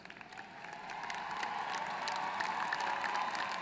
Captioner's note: applause